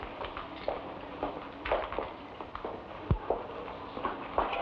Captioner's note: footsteps patter